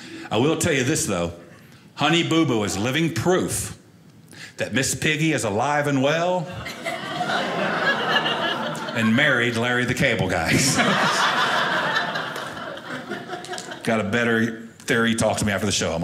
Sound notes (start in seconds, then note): 6.6 audience laughing